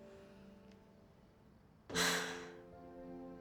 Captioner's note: exhales deeply